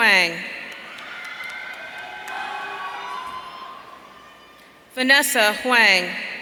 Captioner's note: audience cheering